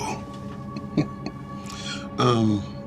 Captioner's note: chuckles